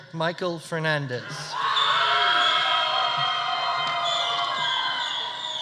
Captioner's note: audience cheering